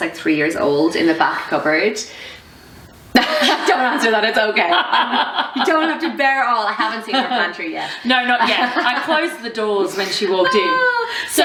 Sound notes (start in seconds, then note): 5.4 laughing